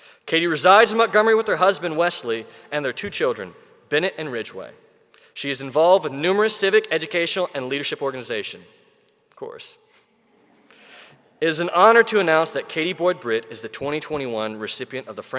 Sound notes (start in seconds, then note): 10.5 audience chuckling